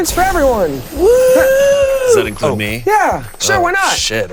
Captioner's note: Damien cheering